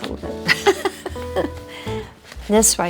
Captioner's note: Priscilla laughs